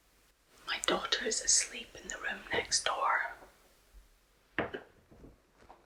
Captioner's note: whispering